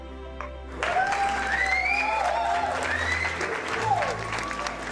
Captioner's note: audience applauds